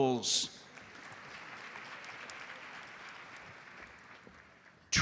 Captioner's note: audience applauds